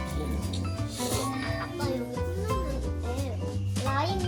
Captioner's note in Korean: 콧방귀